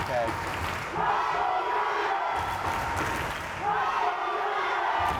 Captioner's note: crowd chanting